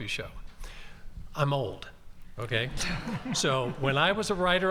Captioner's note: audience laughing